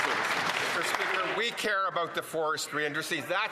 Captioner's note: some Applause